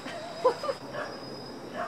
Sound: laughing

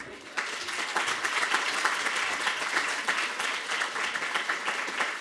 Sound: applause

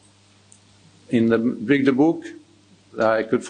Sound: speaks in foreign language

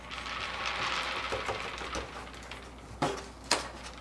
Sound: rattling

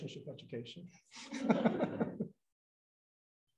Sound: laughs

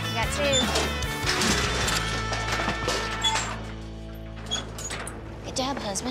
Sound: clanging sound

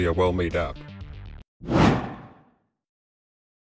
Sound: swoosh

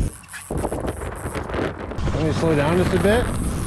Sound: reel clicking

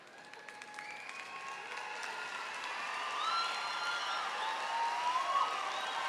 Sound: audience cheering and applauding

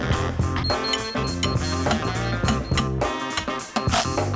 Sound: laser pinging; upbeat music

